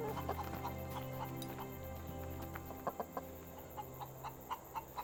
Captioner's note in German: Hühner glucksen